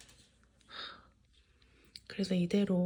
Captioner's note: sigh